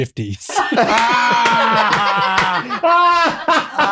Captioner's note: all laughing